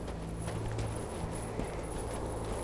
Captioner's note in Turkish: Rüzgâr sesi